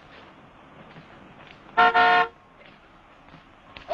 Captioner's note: horn honks